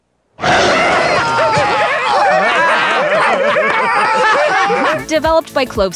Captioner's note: maniacal laughter